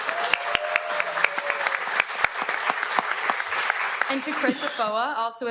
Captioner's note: audience applauds